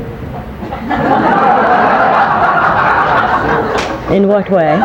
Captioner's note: people laughing